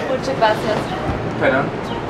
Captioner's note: in Spanish